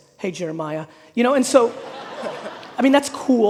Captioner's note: audience laughing